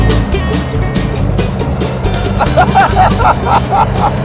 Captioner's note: both laughing